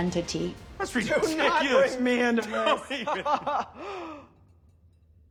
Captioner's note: laughs